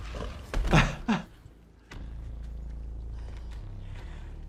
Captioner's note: chuckles